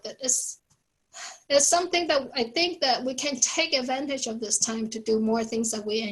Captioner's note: sigh